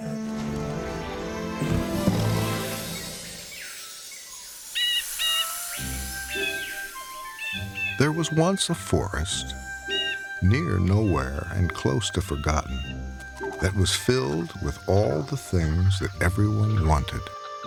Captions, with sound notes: (gentle music) (birds chirping) (birds cawing) (light music) There was once a forest near nowhere and close to forgotten that was filled with all the things that everyone wanted.